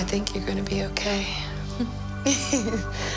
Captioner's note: chuckling